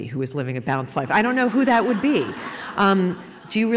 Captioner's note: laughter